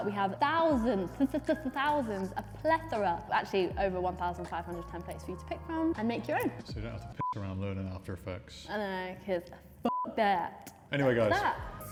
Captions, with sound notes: We have thousands, thousands of plethora, actually over 1,500 templates for you to pick from and make your own. - So, you don't have to (beep) running after your folks. - I know right, 'cause (beep) that! - Anyway guys.